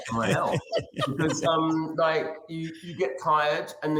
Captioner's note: chuckling